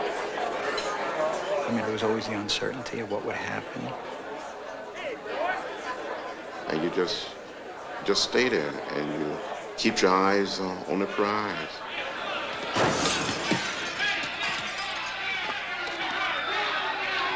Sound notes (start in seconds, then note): 12.7 glass breaking; 14.4 crowd yelling